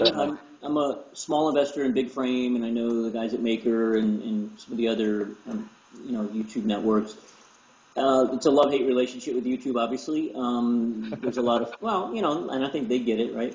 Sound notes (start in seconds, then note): 11.0 laugh